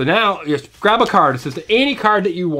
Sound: voiceover

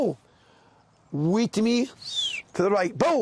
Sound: whistles

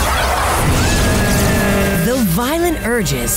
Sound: screaming

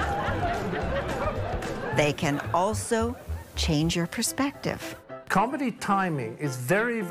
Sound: audience laughter

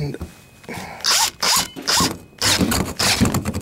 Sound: drill sounds

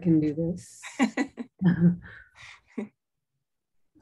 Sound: chuckles

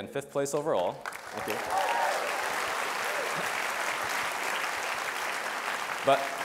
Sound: audience applause

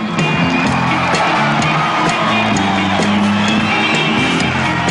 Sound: audience applauding

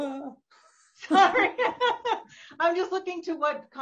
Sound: both laughing

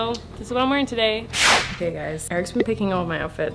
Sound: playful whooshing

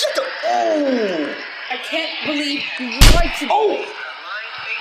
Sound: slap

